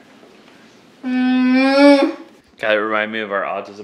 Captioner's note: groans